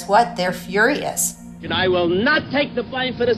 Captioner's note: soundbite of archived recording